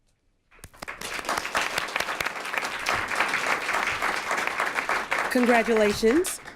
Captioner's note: applause